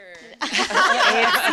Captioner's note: laughter